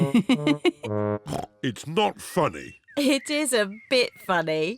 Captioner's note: giggles